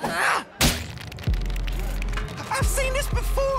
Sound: creaking

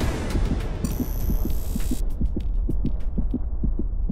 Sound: heart beating

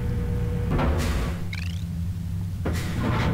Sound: chirp

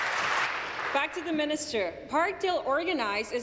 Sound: applause

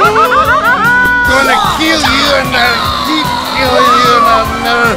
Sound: screaming

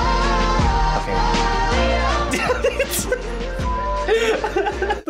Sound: laughs

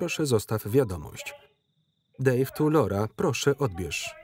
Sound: phone beeping

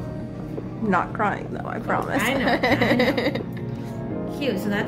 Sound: laughs

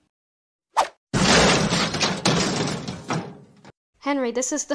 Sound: crash

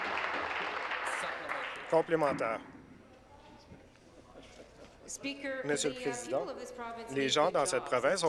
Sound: applause

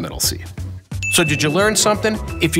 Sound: ding

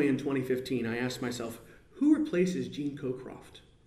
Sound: none

